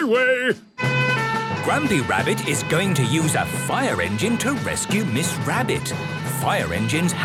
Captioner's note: sirens